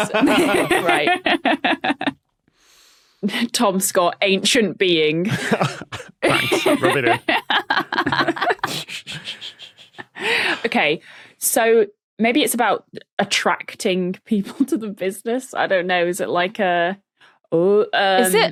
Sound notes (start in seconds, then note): 6.2 laughs